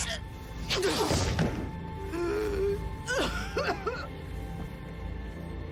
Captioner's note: coughing